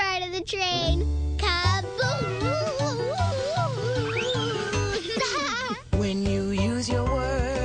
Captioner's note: laughing